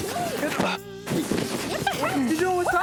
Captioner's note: groans